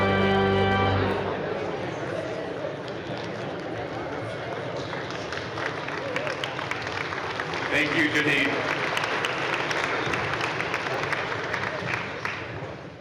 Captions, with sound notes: (audience chattering off microphone) (audience applauding) - Thank you, good evening. (audience applauding)